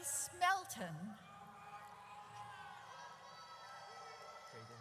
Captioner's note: audience cheers